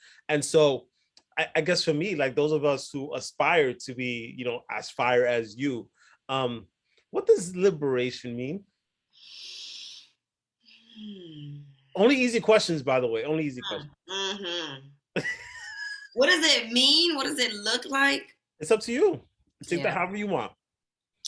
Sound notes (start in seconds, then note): 9.9 breathes heavily; 15.1 laughs